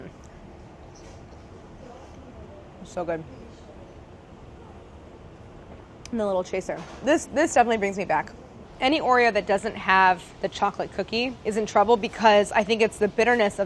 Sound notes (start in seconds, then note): none